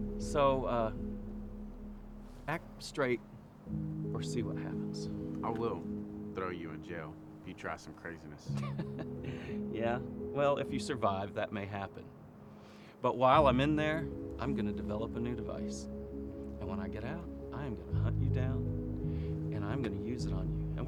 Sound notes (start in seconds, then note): 8.0 laughs